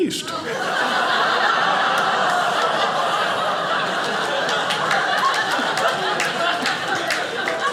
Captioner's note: audience laughing